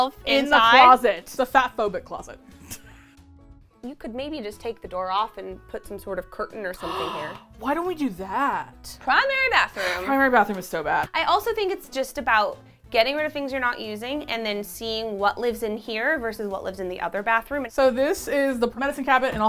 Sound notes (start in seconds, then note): 2.2 laughs; 6.8 gasps; 9.8 sighs